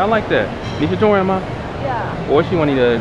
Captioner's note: mandarin